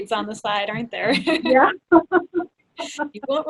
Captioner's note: laughs